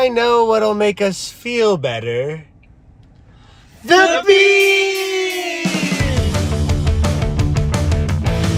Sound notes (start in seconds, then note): 3.2 gasp